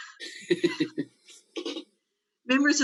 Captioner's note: laughs